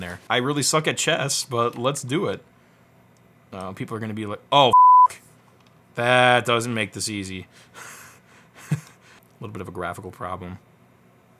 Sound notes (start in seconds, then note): 4.7 beep; 8.5 laughs